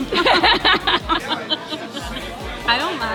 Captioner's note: laughing